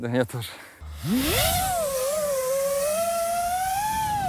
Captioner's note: drone engines whizz